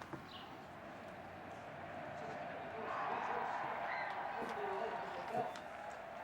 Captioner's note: crowd cheers on TV